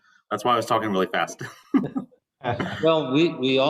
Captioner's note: laughter